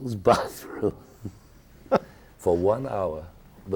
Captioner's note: laughing